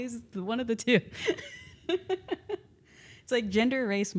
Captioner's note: laughs